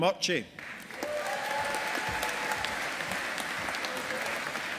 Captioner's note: audience applauding